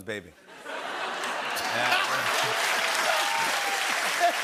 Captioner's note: cheers and applause; laughing